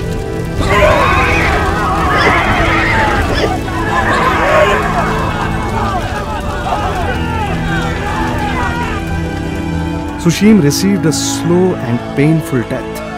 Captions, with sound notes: (Roaring Fire, and wails of burning men and horses) Susim received a slow and painful death